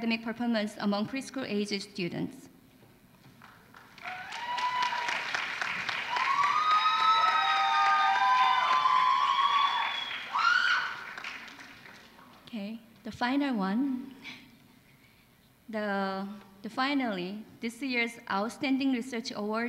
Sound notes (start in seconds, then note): 3.4 applause